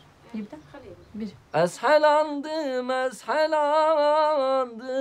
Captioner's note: speaks in foreign language